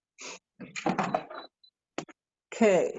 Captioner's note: clangs